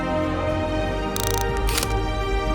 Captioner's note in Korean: 다이얼 소리